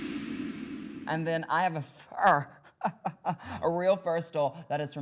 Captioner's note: uptempo music; laughs